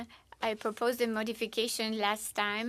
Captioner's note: speaking in French